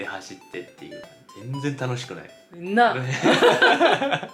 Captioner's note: laughter